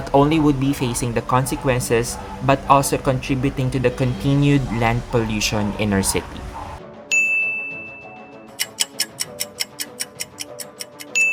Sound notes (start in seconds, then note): 8.5 clock ticking